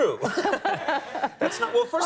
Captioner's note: Conan laughs; Helen laughs